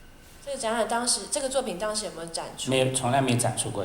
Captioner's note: Mandarin